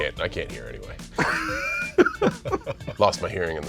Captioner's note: laughter